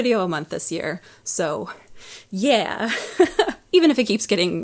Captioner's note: laughs